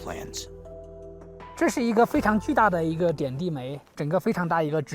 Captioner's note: speaking Chinese